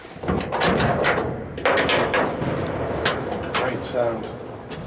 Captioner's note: metal clanking